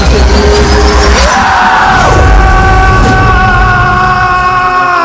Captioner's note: screams